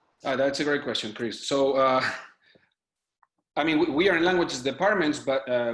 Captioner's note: chuckles